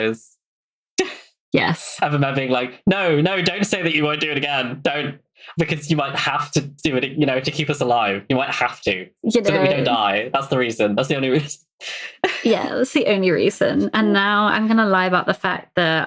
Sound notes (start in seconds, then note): 2.9 laughs